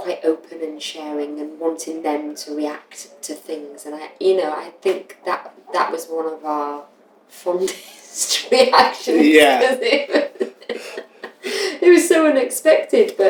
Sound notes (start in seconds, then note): 8.5 laughter